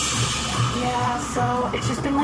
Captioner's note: transition noise